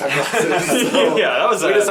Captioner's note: all laugh